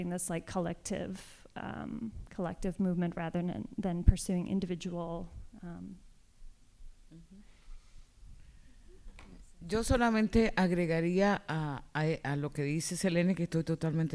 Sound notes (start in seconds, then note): 9.6 speaking spanish